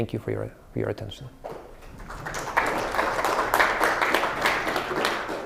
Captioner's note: applause